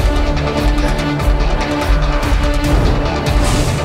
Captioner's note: Michael coughs; whooshing